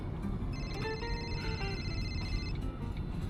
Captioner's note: phone rings